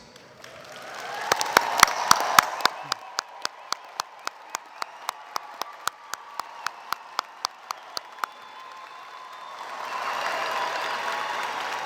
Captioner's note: applause